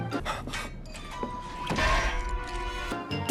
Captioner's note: thud